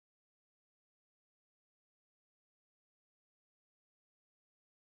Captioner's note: none